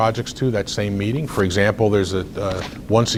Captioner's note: rustles papers